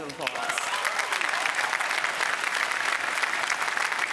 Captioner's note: applause